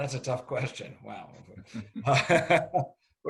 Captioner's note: laughs